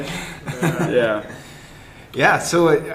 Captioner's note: laughter